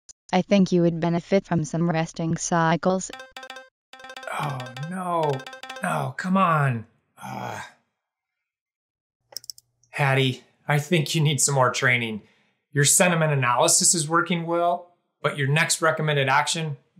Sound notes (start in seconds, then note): 3.9 notification sound; 7.2 grunts